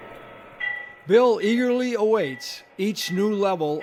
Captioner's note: voiceover